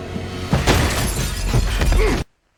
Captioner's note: thud, metal clinking, glass breaking